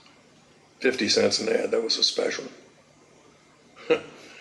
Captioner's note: chuckle